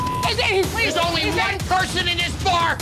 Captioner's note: beep